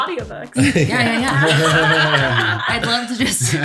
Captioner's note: laughter